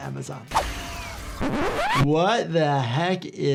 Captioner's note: tape rewinds